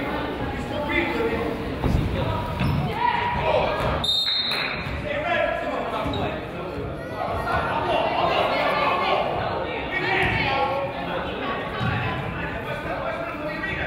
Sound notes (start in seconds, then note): 2.8 crowd yells; 4.0 whistle blows